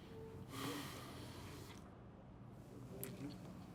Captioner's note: sighing softly; TV chattering softly